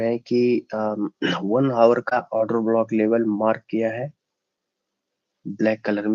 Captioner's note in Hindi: गला साफ़ करने की आवाज़